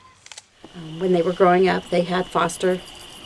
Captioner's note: voiceover